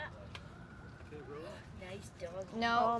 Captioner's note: couple chattering